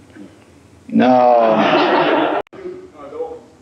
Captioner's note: laughter